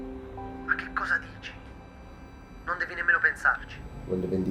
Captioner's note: Ian on phone